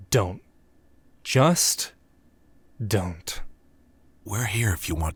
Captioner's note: none